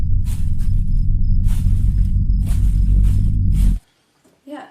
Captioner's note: stomping on leaves